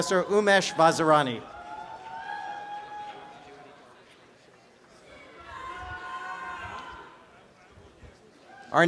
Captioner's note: applause and cheering